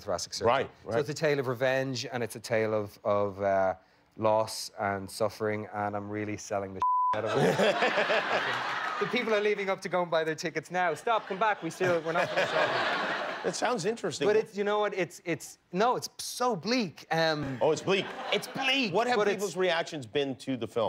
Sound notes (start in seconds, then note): 7.2 laughter; 19.7 laughter